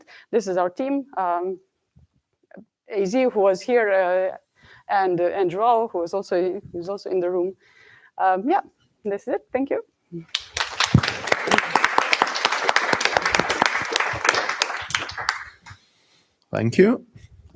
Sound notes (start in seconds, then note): 10.2 applause